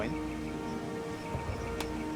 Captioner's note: birds chirping